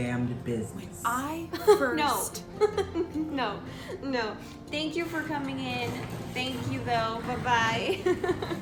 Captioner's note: laughs